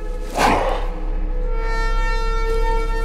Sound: snarl

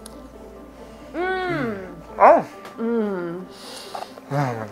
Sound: cooks make sounds of pleasure

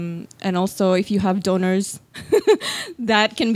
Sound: laughs

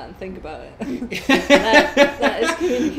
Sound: both laugh

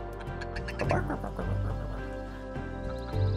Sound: imitates barking

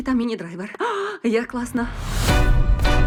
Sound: gasps

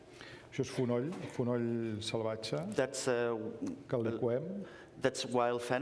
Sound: speaking catalan

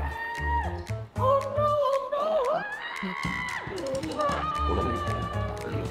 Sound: Granny screams; screams; playful music

